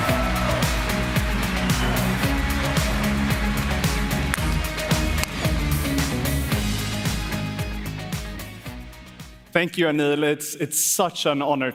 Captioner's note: cheers and applause